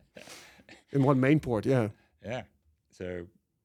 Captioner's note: laughs